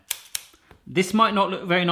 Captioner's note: snipping